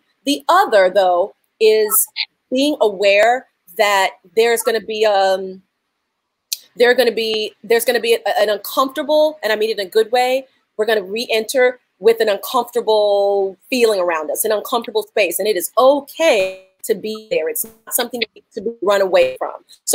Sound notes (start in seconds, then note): none